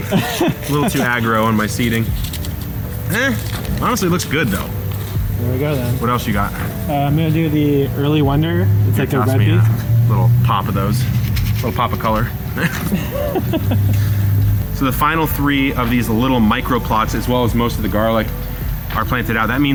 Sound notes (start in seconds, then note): 10.8 seeds shuffling; 12.5 laughing